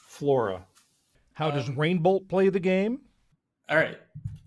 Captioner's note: voice-over